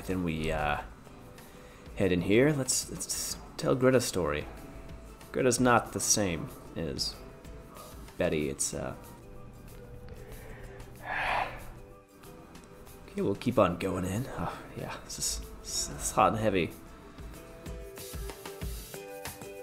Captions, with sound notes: Then we head in here. Let's tell Greta's story. Greta's not the same as Betty. It's, uh-- (heavy sigh) Okay, we'll keep on going in. Oh, yeah, this is hot and heavy. (soft music)